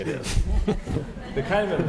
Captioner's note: laugh